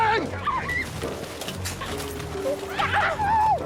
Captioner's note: women scream